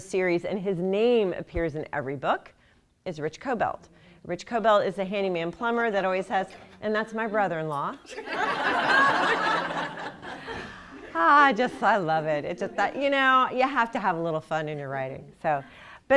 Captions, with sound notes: SERIES AND HIS NAME APPEARS IN EVERY BOOK. IT'S RICH CO-BELT. RICH CO-BELT IS THE HANDYMAN PLUMMER AND THAT'S MY BROTHER-IN-LAW. [LAUGHTER] I JUST LOVE IT. YOU KNOW, YOU HAVE TO HAVE A LITTLE FUN IN YOUR WRITING. BUT